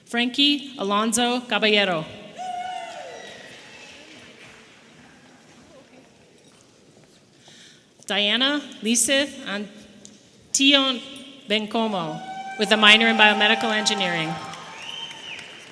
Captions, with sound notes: Frankie Alonso Caballero. (people cheering) Diana Antillon-Bencomo with a minor in Biomedical Engineering.